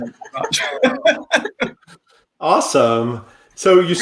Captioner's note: all laughing